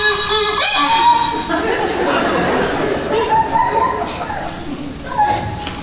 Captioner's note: off-key kazoo; laughter